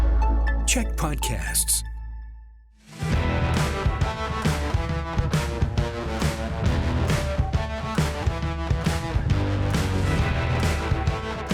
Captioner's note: announcer voice